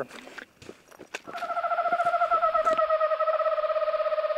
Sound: bird calls

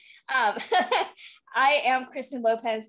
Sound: laughing

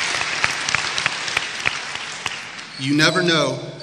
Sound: applause

